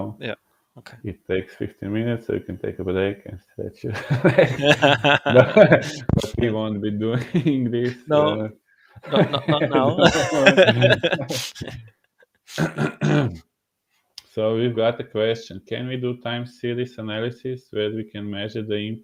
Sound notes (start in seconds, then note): 3.7 laughing; 9.0 laughing; 10.7 clearing throat